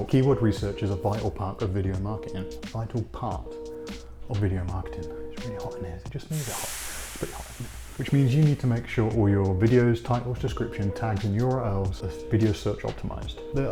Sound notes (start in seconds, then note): 6.3 sizzling sound